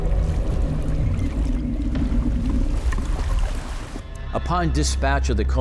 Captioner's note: bubbles gurgling; water lightly splashing; water lightly lapping